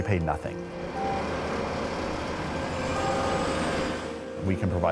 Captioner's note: engine whirring